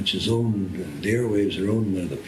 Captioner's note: none